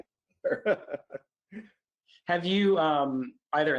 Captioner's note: laughs